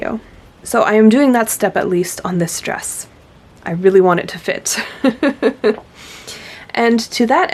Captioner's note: laughs